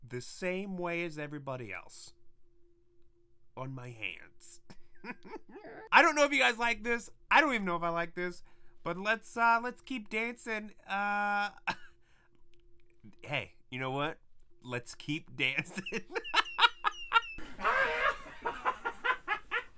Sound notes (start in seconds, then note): 15.5 laughter